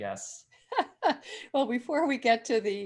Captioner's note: laughing